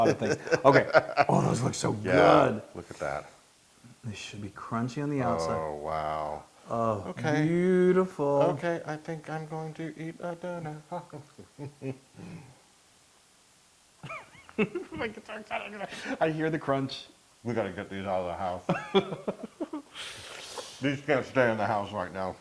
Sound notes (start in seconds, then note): 0.0 laugh; 11.0 laugh; 18.7 laugh